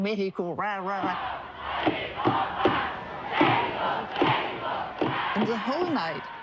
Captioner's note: crowd chants